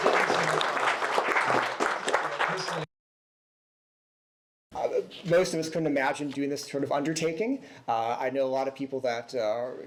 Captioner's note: applause